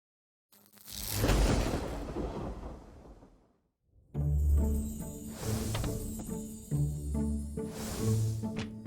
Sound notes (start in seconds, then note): 0.8 logo whooshing; 4.1 dramatic music